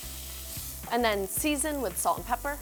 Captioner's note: meat sizzles